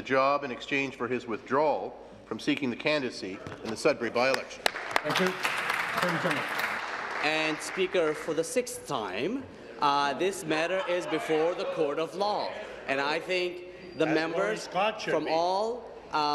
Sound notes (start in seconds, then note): 8.8 applause